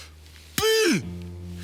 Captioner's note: hard breathing